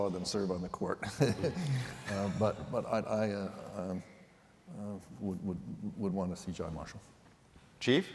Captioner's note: laughter